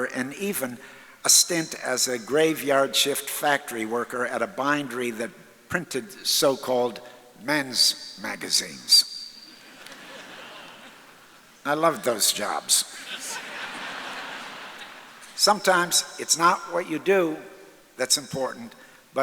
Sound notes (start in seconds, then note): 9.6 audience laughs; 12.7 audience laughs